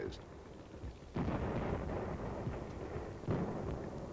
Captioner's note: booming